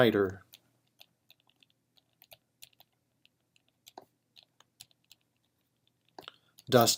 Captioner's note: typing